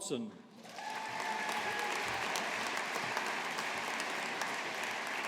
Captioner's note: audience applauding